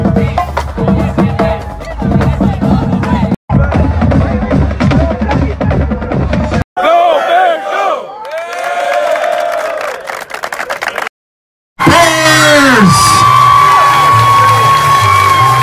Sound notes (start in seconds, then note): 3.5 drumming; 8.7 cheering; 13.2 applause